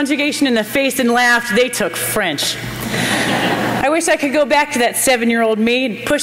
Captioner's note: laughter